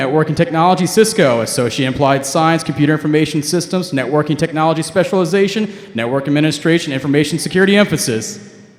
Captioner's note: none